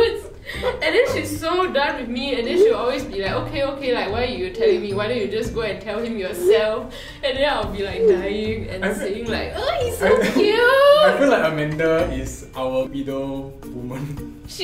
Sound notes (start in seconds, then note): 7.0 rambling